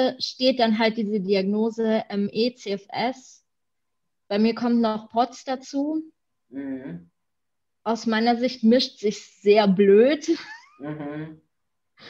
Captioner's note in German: lacht